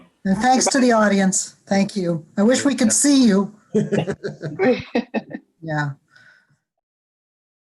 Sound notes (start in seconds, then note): 3.7 laughter